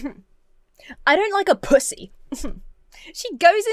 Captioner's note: scoffs; scoffs